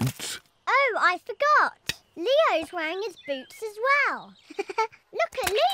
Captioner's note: giggles